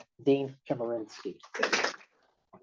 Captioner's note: applause and cheering